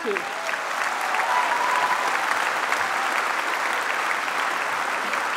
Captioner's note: applause